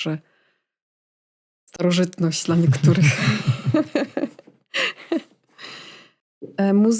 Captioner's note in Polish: śmiech